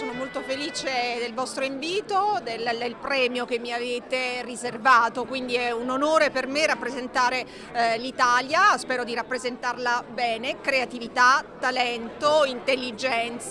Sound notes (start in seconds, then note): 0.9 speaking italian